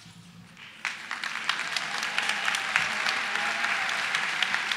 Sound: cheering and applause

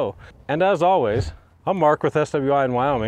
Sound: words whooshing

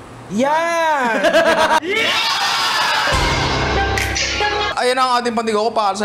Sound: laughs

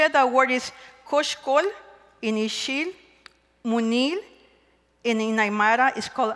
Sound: speaking K'iche

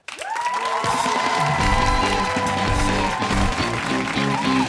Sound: cheers and applause

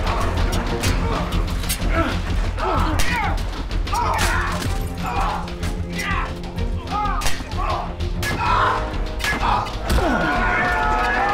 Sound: fighting, groaning

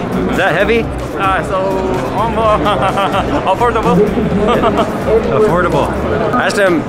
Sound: laughs

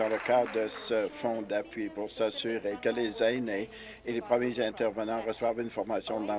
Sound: applause

